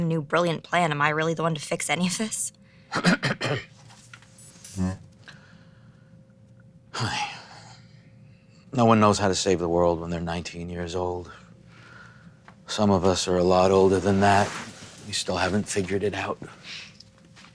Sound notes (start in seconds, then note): 2.9 cough